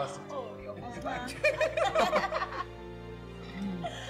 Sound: laughs

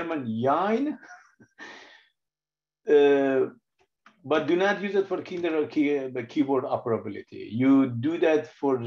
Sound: laughs

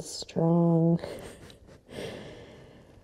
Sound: chuckles

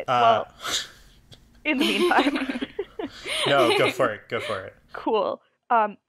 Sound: ALL laugh

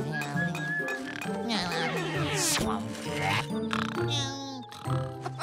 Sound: whistling; snoring; laughing

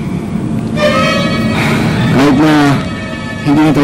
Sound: exhales

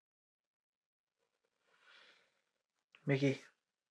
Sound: he inhales

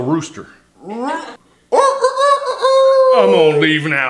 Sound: mournful rooster noises

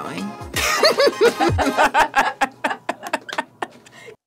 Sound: laughing

